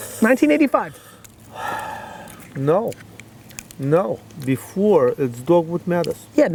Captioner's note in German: murmelt